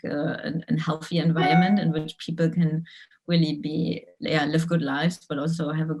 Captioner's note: phone beeps